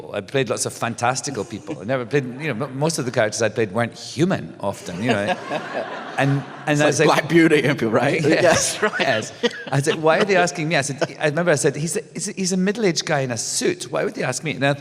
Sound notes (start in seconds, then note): 4.8 laughter